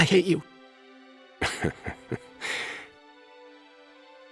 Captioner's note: chuckles